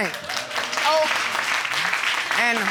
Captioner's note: audience clapping